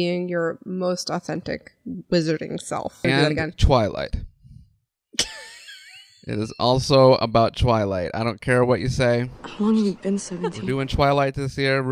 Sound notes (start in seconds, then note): 5.2 laughter